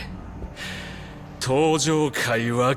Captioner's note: gasping